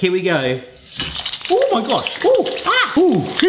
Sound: oil sizzling; exclaiming in pain

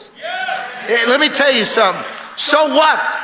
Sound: congregation cheering

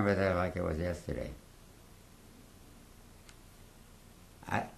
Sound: pauses for 3 seconds

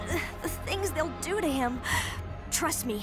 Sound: gasps

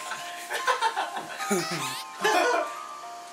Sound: haha

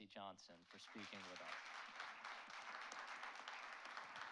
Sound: applauds

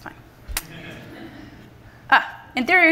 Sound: laughter from the audience

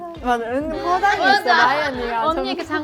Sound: giggling

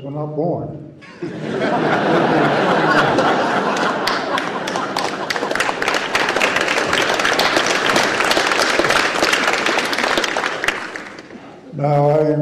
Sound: laughter and Applause

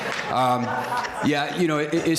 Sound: crowd laughter

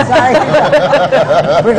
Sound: laughter

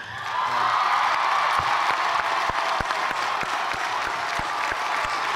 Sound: cheers and applause

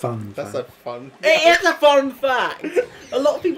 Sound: voice break

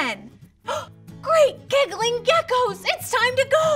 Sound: gasps

